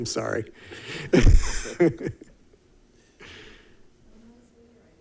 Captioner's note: chuckles